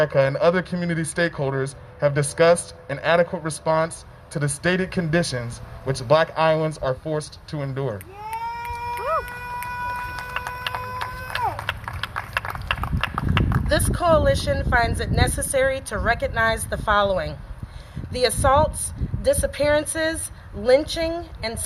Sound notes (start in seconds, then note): 8.6 applause